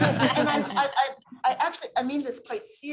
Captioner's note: laughter